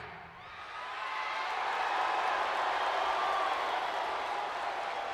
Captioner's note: crowd cheers and boos